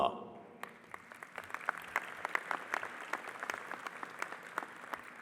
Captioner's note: audience applauding